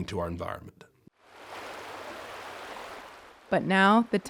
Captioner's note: water burbling